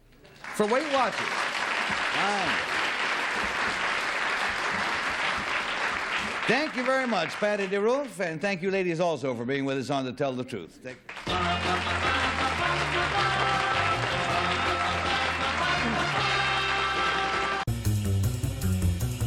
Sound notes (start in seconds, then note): 2.8 applause; 11.3 theme music